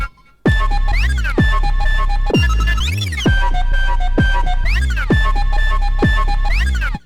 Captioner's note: whistle / flute impact patch